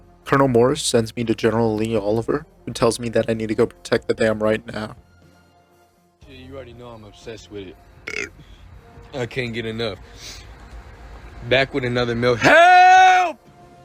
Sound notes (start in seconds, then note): 8.0 burps; 12.3 screaming